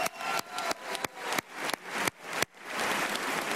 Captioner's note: applause